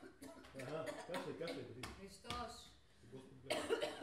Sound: replies in Bulgarian

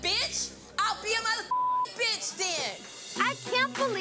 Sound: beep

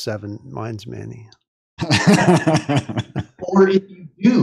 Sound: laughter

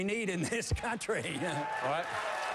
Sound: applause

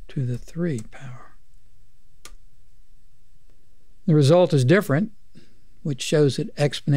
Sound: clicking

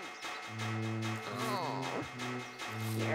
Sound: groans

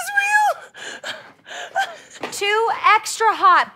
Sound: happy crying

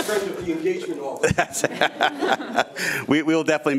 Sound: laughs

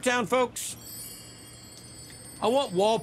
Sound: sparkle

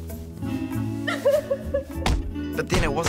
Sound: Antonia crying

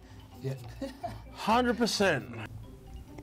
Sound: chuckles

